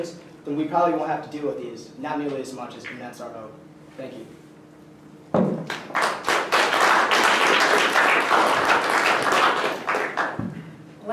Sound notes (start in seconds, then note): 5.6 applause